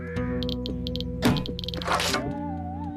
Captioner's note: clicking